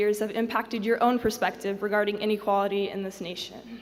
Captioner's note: none